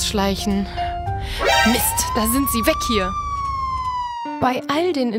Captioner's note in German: Einsatzsirene